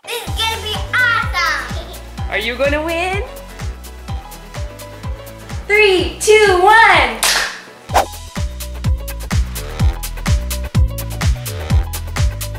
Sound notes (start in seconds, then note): 3.8 upbeat music; 7.2 clap; 7.8 upbeat music